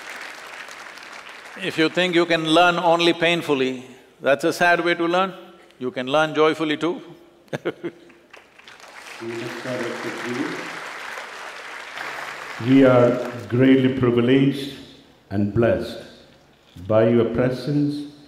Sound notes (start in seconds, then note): 0.0 applause; 7.5 laughs; 8.0 applause